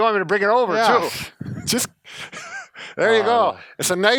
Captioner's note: laughs